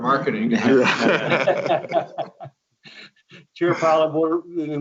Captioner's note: laughing